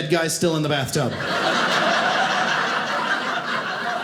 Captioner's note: audience laughing